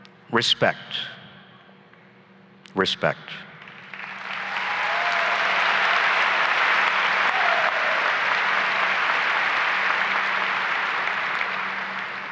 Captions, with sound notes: Respect, respect. (applause and cheering)